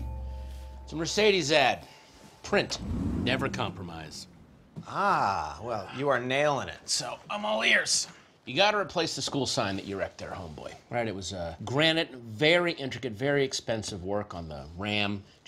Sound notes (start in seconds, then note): 2.7 engine revs